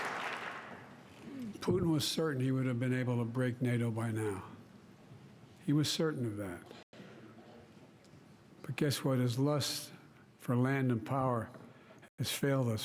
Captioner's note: applause